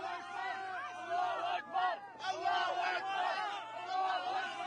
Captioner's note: refugees shout